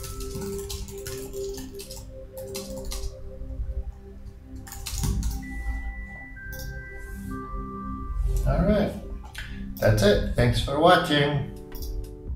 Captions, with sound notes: (keys clacking) All right. That's it. Thanks for watching.